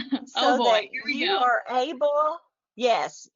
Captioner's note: chuckles